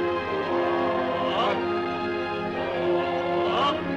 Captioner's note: men chanting